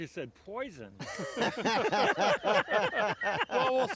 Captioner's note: all three laughing